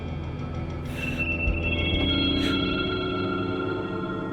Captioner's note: breathes sharply